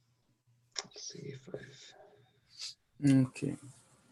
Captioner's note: speaking faintly